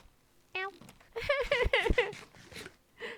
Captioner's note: sad pathetic sobbing